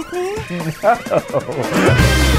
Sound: laughing; upbeat funk music

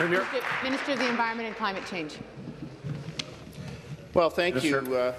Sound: applause

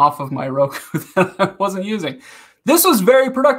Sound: laughing

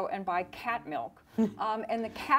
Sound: laughs

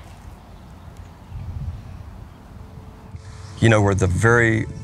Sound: quiet wind

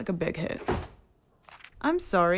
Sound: door closes

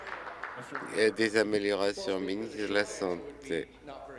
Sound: applause

